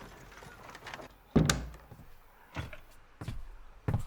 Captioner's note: door thudding